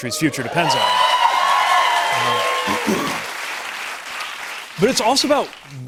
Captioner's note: cheers and applause